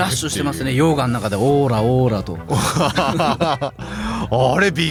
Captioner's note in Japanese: 笑い